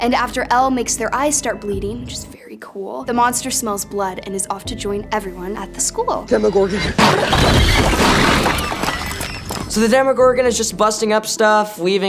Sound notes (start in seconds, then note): 6.2 screeching; 6.9 bricks crumbling